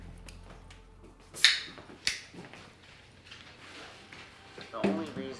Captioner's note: can cracks open